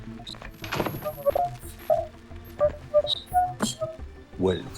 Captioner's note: static crackling